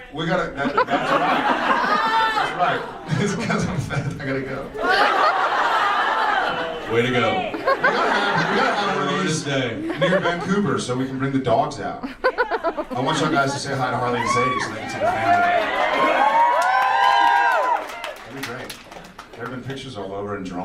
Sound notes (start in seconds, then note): 0.5 audience laughs; 3.0 fake crying; 4.6 audience laughs; 16.7 audience cheers